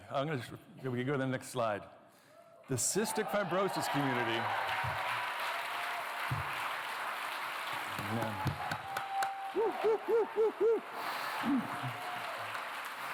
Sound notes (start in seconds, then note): 4.5 cheering, applause; 8.6 whooping